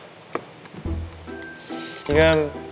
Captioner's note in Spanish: Habla lento para inventar una historia